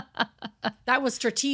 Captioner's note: laughing